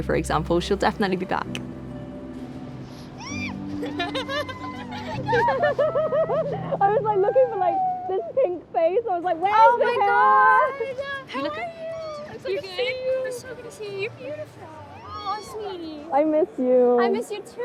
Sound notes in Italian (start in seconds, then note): 3.7 esultano